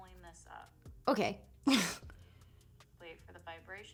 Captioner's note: laughs